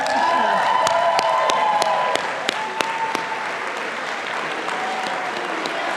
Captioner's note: audience applauding and cheering